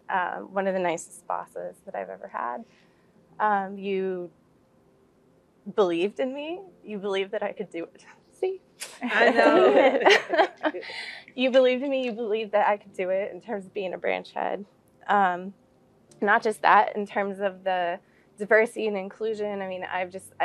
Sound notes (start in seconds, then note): 9.0 laugh